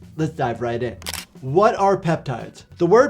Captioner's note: camera clicking